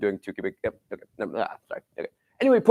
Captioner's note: mumbles